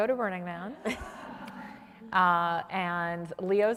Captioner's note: audience laughs